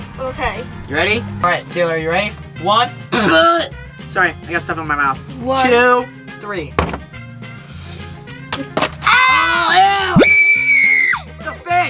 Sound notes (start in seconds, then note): 3.5 spitting; 7.0 button clacking; 8.5 fish smacking; 9.0 screaming